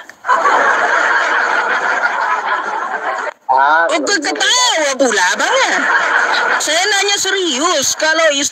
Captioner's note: laughs